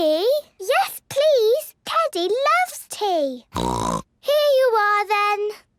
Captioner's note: snort